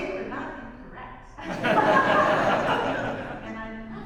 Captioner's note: audience laughs